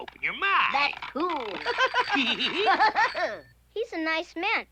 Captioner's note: laughs